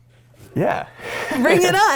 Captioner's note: laughs